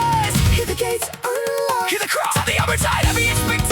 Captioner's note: hear the crowd